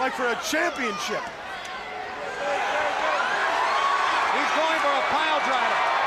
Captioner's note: crowd chatter